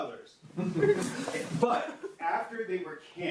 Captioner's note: audience laughs